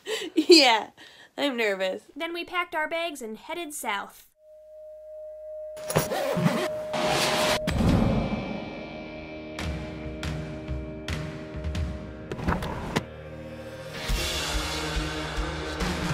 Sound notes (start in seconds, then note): 5.8 zippers zipping